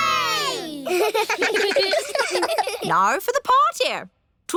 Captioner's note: kids giggling